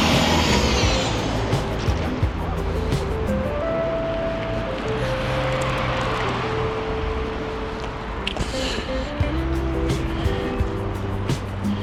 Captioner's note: wind Blowing